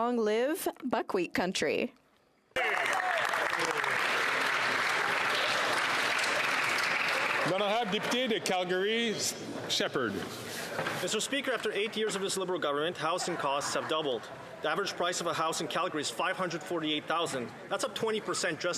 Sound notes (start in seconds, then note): 6.4 some Applause